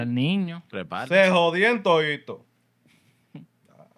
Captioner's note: speaking Spanish